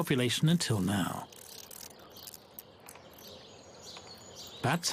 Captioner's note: bats chirping